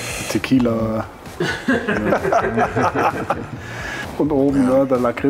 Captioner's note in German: Gelächter